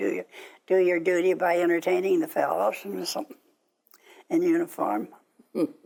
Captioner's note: laughing